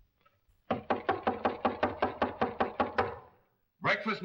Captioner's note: knocking on door